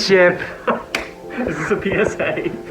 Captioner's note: laughs